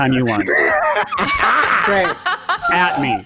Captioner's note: all laugh